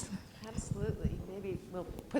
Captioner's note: voiceover